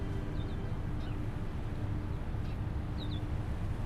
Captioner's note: birds chirping